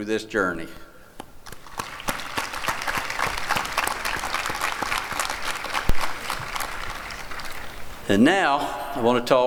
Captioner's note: applause